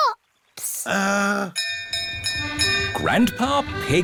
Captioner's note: bell rings